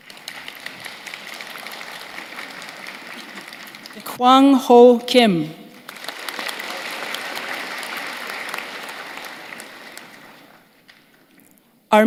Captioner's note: applause